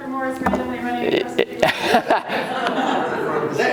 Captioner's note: murmurs; laughing